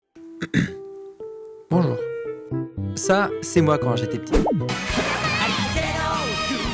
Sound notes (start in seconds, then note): 0.4 clears throat